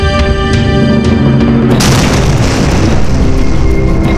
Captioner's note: explosion